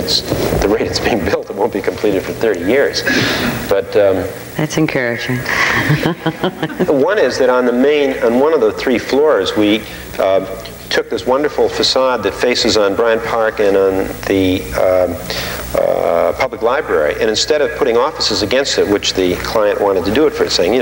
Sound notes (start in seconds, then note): 5.4 laughing with audience